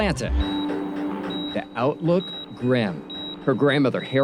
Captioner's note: medical equipment beep